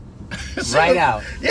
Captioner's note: laughing